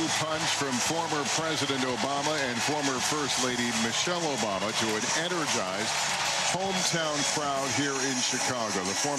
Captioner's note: applause